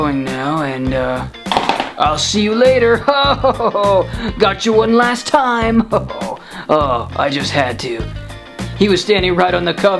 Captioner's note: splat; laughing